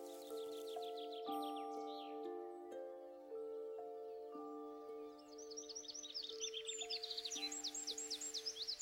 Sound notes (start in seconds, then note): 0.0 birds chirping